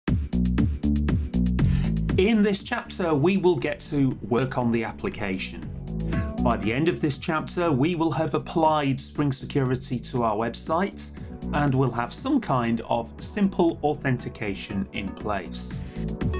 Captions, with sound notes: - [Voiceover] In this chapter, we will get to work on the application. By the end of this chapter, we will have applied Spring Security to our website and we'll have some kind of simple authentication in place.